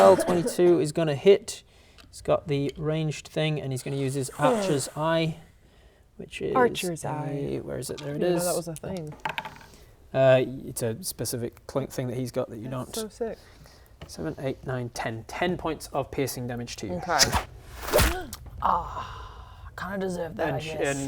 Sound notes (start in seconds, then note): 17.2 thwoop